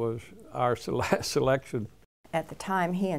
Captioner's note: chuckles